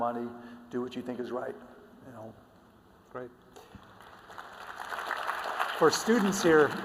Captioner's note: applause